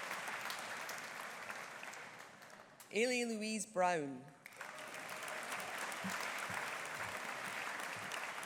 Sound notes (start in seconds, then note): 4.4 audience applauding